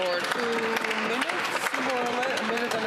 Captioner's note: some Applause